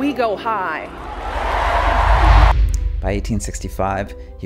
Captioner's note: cheering